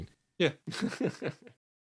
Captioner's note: laughs